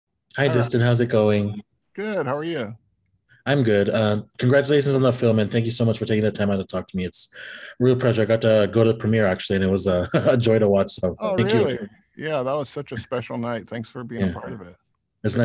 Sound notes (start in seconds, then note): 11.2 laughs